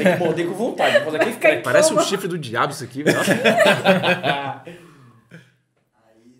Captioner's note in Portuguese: risos